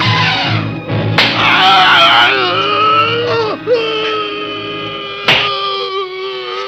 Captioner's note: intense orchestral music; clattering; man groaning